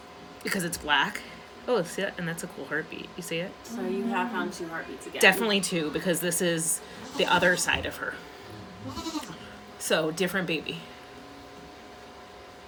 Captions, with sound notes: Because it's black. Oh see that? It's a cool heartbeat. You see it? So you have found 2 heartbeats again? Definitely 2 because this is the other side of her. [Maybel bleating] So different baby.